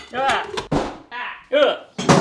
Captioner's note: clunking; thuds; clunk